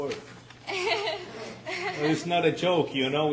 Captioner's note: laughing